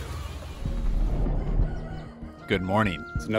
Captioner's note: rooster crows